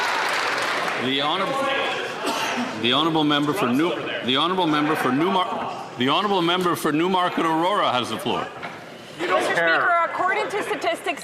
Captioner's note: some Applause